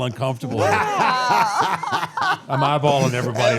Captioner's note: all laughing